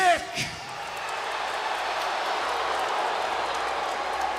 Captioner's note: crowd boos